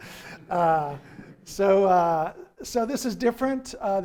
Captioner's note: laughing